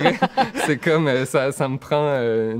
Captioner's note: laughs